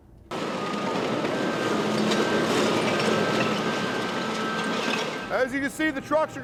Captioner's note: trash crunching